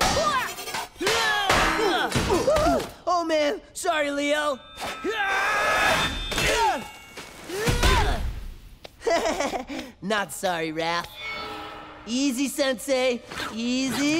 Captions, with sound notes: Oh, man. Sorry, Leo! Hyah! [grunting] [laughing] Not sorry, Raph. Easy, Sensei. Easy.